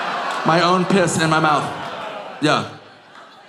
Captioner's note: audience groaning